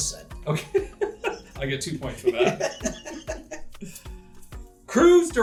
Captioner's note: laughter